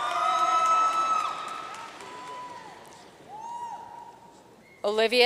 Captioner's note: audience cheering and applauding